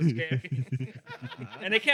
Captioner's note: laughing